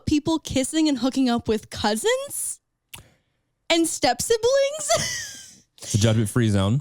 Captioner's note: laughs